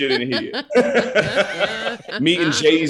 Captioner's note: all laughing